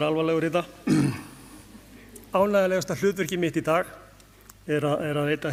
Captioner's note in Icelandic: ræskir sig